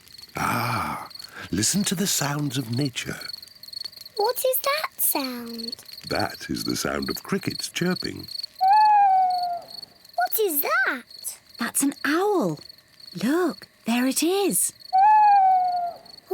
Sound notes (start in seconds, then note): 4.2 crickets chirping; 8.5 owl hoots; 14.5 owl hoots